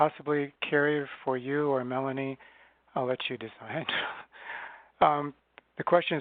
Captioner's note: chuckles